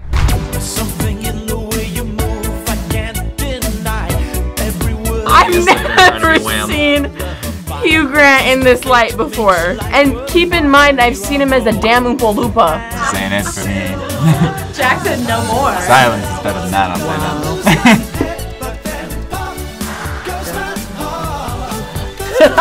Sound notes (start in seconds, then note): 5.2 laughs; 12.8 laughs